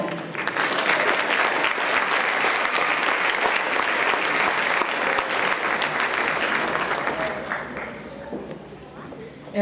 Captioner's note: applause